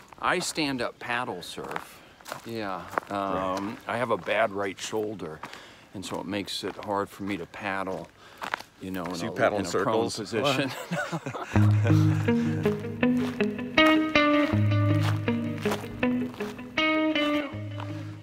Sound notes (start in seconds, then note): 10.4 both laughing; 11.5 contemplative guitar music; 14.7 footsteps crunching